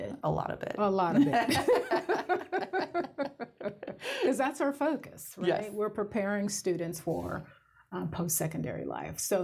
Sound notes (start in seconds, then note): 1.1 laughter